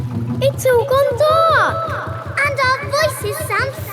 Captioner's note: echoes